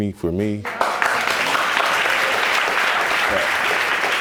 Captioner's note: audience applauds